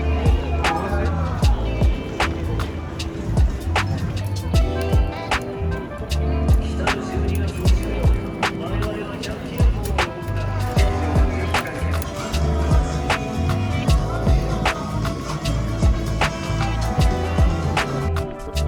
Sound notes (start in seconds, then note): 9.5 drinks